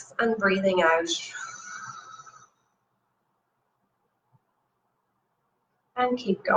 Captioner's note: exhales